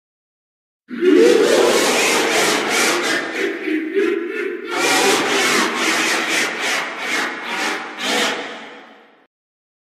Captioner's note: evil laughter